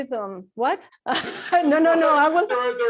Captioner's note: laughs